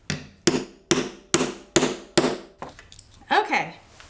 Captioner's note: hammer striking